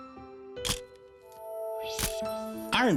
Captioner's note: camera shuttle click